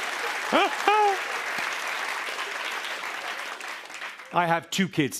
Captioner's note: laughter and applause; laughs